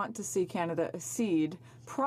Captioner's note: speaking French